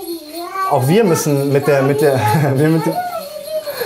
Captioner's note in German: Kinderplaudern